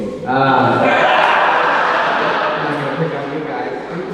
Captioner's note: audience laughing